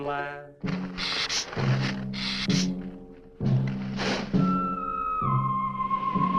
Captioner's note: dramatic music; lizard hissing